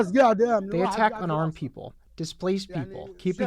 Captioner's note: through translator